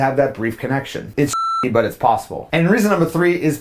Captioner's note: beep